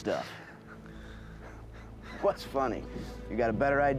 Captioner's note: laughing